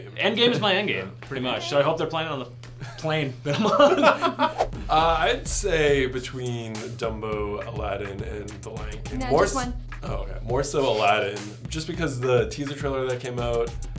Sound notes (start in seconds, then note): 3.5 laughs